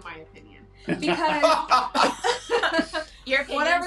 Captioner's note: laughing